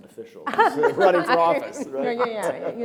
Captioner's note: laughs